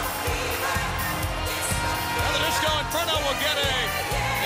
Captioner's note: crowd cheering